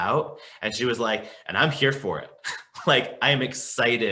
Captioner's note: chuckles